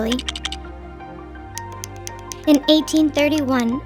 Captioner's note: poignant music; Lego blocks clicking